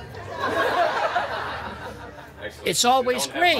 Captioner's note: guests laughing